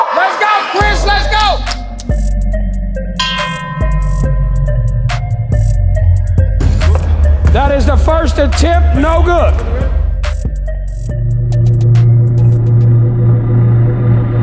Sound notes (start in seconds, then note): 2.6 tense music; 3.2 ding; 6.7 dunk sound